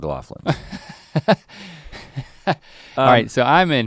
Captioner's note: Link laughs